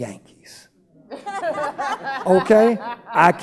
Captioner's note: laughing